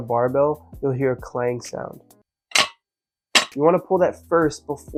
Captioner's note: insert clang sound clip